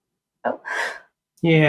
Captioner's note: exhales